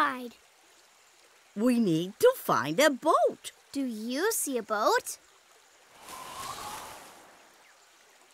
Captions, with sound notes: -We need to find a boat. -Do you see a boat? [wind blowing]